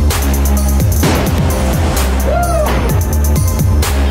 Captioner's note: радостный крик